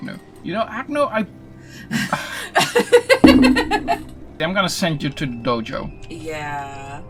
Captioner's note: exasperated laughing